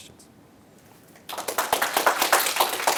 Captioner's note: applause